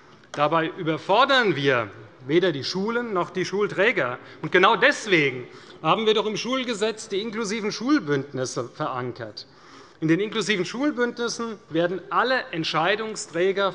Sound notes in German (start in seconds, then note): none